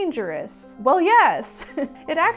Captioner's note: laughs